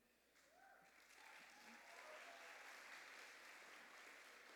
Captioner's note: applause